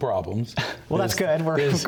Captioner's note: laughs